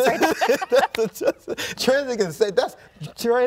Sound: both laughing

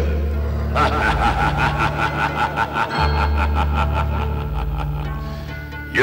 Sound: laughs

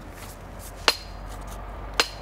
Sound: chiselling

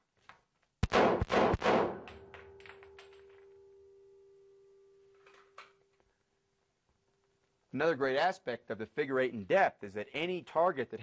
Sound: gunshots

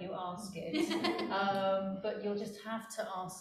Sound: laughing

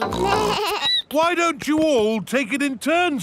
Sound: snorts; bleats

